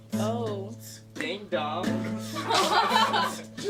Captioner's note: laughter